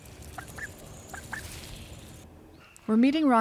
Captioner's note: ducks chirping